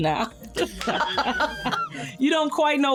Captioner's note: laughing